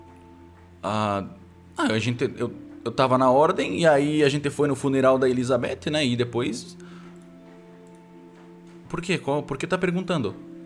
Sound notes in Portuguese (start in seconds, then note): none